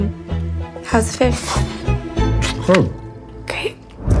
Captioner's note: slurps